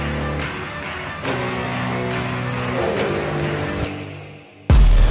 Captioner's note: Tepuk tangan